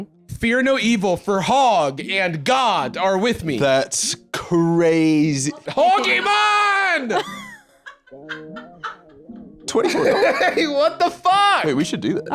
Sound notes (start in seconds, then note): 7.1 cackles